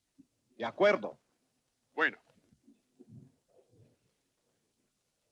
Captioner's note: chatter in Spanish